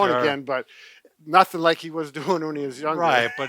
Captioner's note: laughs